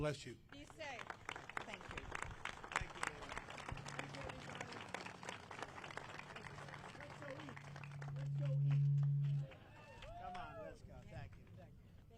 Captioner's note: applause